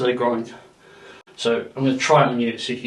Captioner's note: person breathing